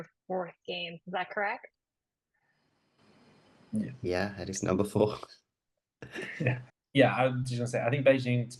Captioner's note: chuckles